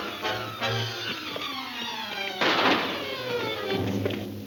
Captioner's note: thrilling music; gun firing